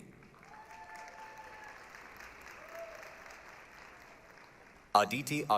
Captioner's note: applause, cheering